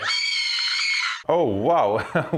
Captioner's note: scream